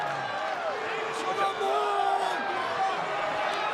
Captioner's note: crowd yelling